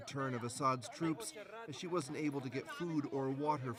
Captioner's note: speaking French